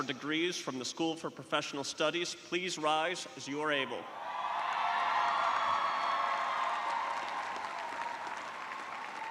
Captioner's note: cheers and applause